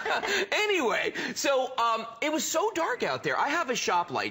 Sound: laughter

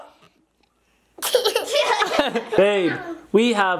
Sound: laughs

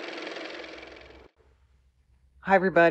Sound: car motor

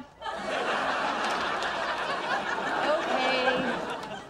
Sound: audience laughter

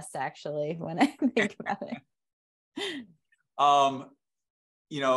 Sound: laughter

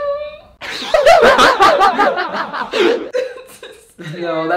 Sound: laughing

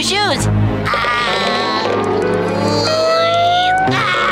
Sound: groaning

